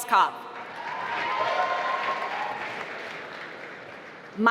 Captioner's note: applause